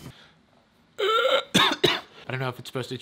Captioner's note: person chokes